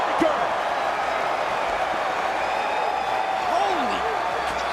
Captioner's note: crowd cheers